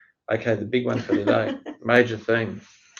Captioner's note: laughs